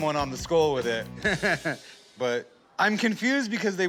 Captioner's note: laughter